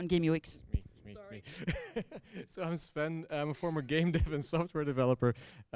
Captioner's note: laughter